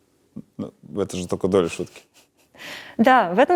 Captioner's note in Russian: Смеётся